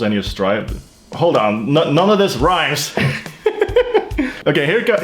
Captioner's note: laughs